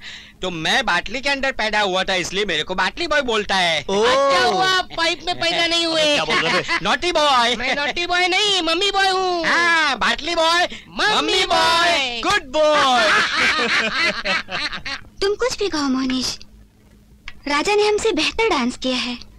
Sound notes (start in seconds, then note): 12.7 laughing